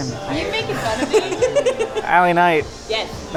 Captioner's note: giggles